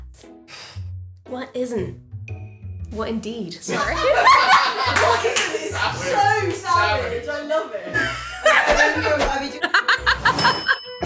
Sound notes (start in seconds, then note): 3.7 laughter; 7.9 laughter